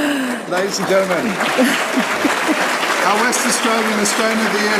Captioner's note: laughter